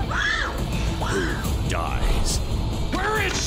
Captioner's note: screams